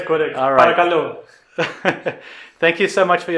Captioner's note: speaking in greek